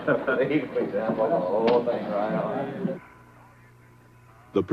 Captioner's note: indistinct chatter